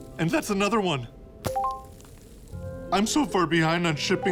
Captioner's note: notification ding